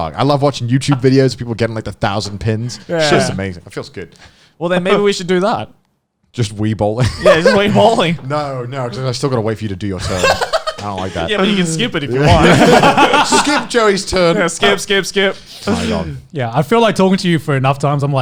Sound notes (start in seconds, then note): 12.7 all laughing